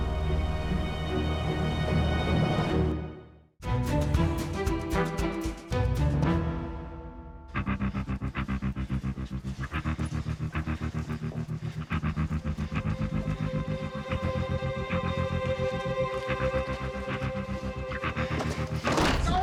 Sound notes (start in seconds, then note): 11.3 emmett panting